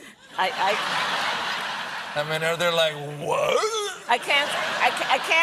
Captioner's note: laughter